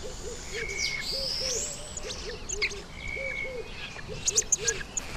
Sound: birds chirping

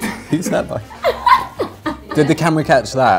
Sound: Ruby laughs

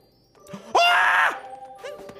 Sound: screams

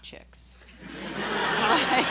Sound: laughing

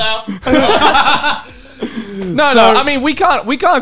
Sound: men laughing

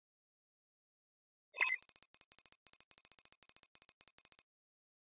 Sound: beep, code running

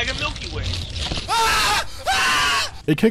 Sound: exaggerated screaming

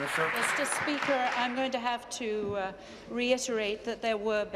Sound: applause

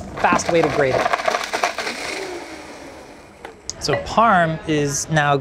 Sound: blender whirs

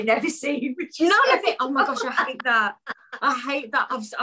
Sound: laughs

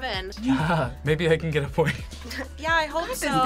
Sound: chuckles

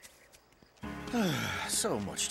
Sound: sighs

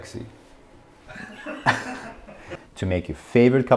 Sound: laughing

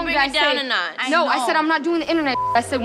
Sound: beep

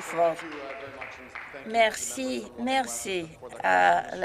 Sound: some Applause

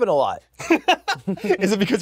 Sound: laughs

